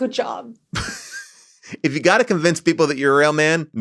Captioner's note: laughs